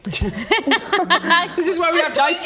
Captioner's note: giggles